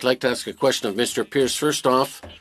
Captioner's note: speaking French